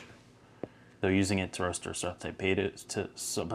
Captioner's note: stammers